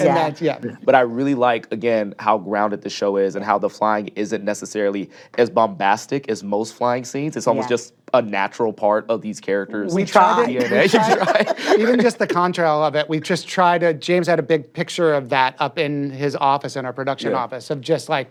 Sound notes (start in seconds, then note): 10.4 laughs